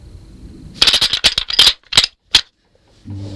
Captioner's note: sound of rattle bag